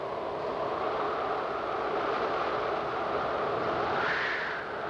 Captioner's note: wind blowing